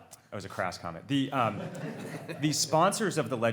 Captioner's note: audience laughs